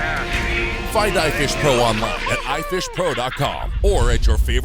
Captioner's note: voiceover